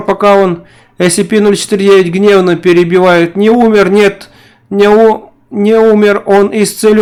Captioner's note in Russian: Гневно, перебивает